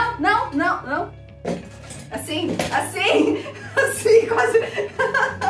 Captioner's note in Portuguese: rindo de nervoso